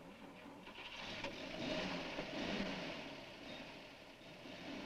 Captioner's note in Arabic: محركات السيارة تدور